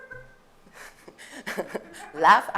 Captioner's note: laughter